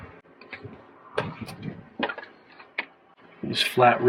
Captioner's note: snipping sound